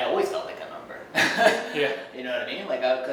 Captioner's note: laughs